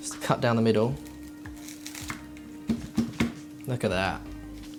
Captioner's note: crunch